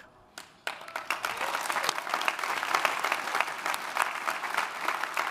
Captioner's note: audience applauding